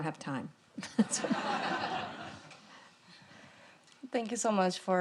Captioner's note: audience laughing